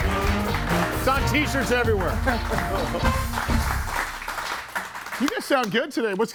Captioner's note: audience applauds